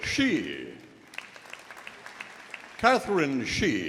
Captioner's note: audience applauding